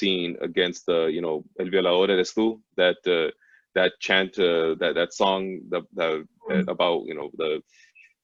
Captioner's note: foreign language spoken